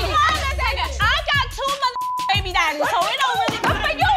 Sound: beep

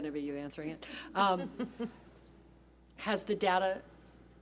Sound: laughs

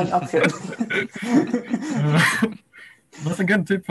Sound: laughs

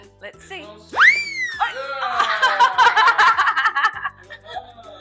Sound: laughter

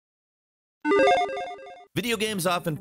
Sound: logo beeps

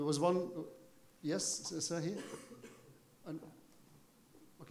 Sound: speaking foreign language

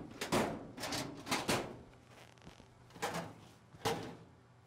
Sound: drawers rattle

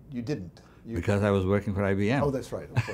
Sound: laughs

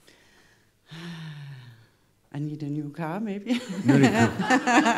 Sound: sighing; she chuckles

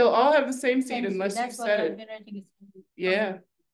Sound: student faintly speaking

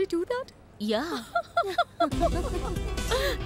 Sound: laughter

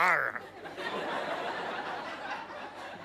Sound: audience laughter

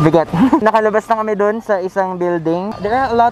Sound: laughs

